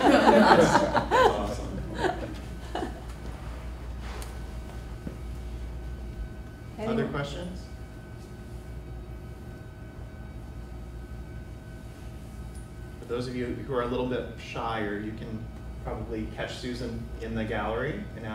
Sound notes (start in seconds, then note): 0.0 everyone laughs; 3.4 laughs